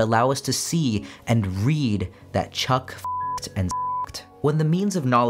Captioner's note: beep